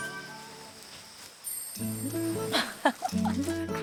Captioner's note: swoosh~